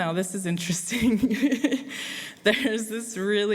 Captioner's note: laughs